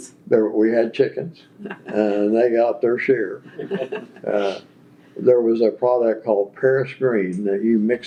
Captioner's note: laughter